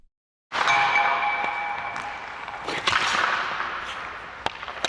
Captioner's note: pucks clattering